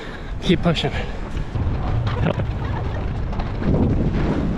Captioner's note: wind blowing